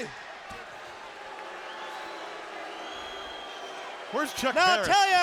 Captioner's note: audience jeers